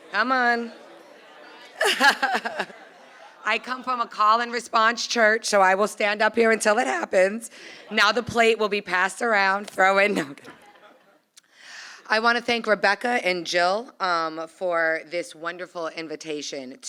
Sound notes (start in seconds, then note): 0.7 laughs; 10.4 laughter